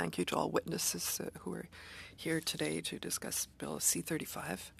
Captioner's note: speaking French